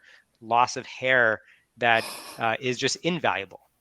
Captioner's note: laughs